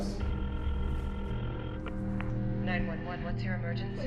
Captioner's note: ringing